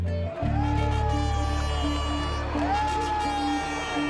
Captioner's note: crowd cheering